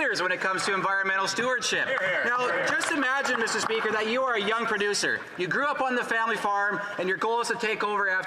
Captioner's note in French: voix de l'interprète